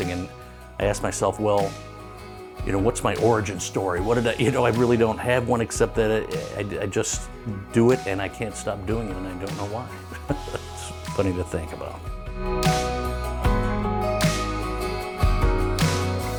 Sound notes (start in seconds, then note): 9.9 chuckling; 13.5 gentle music